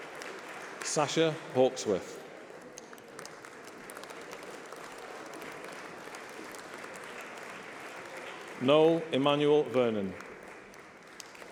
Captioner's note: applause